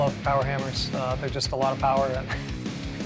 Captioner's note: chuckles